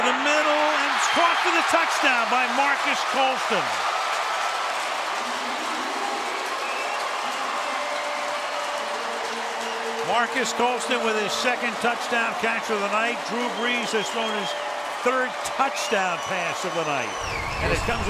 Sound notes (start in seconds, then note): 4.0 crowd cheering